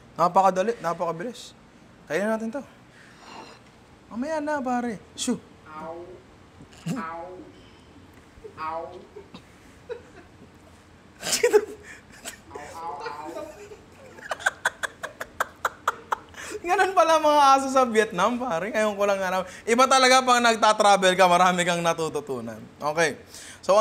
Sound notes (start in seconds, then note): 8.4 imitates dog sounds; 11.2 laughs